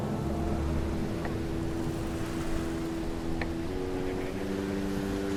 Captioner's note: breaking waves